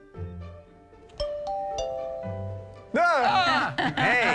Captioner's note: DoorBot Ringing